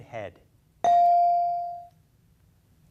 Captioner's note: beep